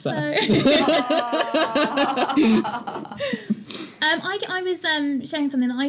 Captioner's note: laughter